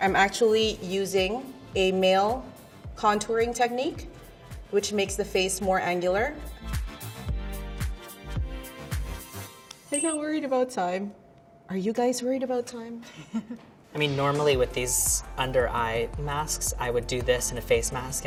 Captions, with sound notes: - I'm actually using a male contouring technique, which makes the face more angular. [upbeat music] [countdown sound] I'm not worried about time. Are you guys worried about time? - I mean, normally with these under eye masks I would do this and a face mask